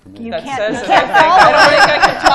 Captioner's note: laughter